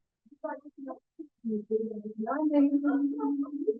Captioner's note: background chat